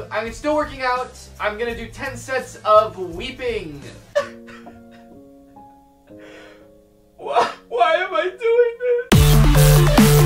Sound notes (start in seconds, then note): 6.0 weeping